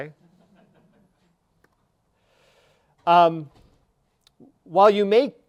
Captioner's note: audience laughing